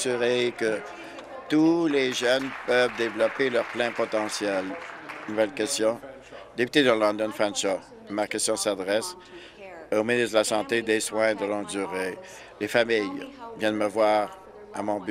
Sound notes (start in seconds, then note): 6.3 applause